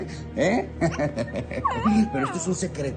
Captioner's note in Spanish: Risas